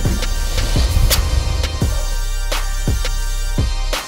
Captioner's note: drill whirs; air hisses